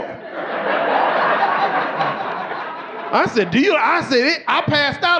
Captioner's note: audience laughing